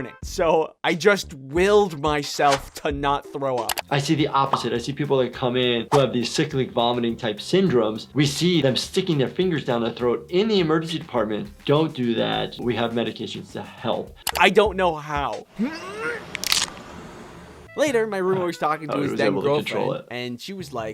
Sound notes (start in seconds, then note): 15.5 heaves; 16.2 car whooshing